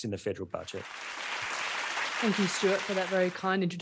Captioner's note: audience clapping